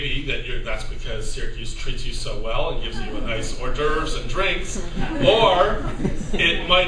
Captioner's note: laughter